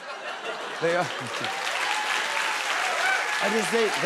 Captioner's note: cheers and applause